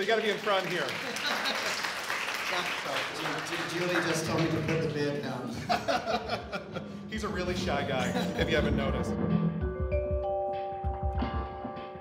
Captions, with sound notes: So you've gotta get in front here. (applause) - Julie just told me before the bids come. - He's a really shy guy if you haven't noticed.